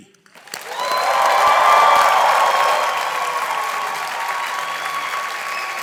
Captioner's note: audience applauding